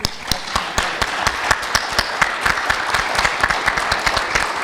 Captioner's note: audience applauding